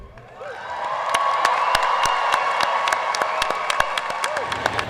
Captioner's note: audience cheers and applauds